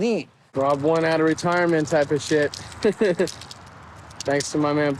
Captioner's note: laughs